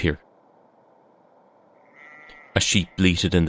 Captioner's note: sounds of sheep bleating in the distance